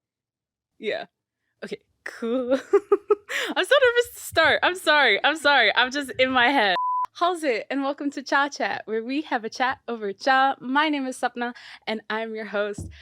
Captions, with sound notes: Yeah. Okay, cool. *laughs* I'm so nervous to start. I'm sorry, I'm sorry. I'm just in my head. Howz it? And welcome to Cha chat, where we have a chat over cha. My name is Sapna and I'm your host.